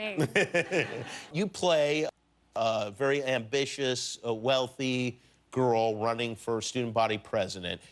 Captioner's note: laughter